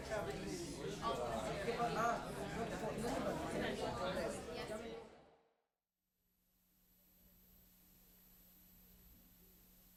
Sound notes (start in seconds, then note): 5.2 silence; 7.2 faint TV static